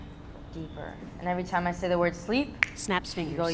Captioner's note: fingers snapping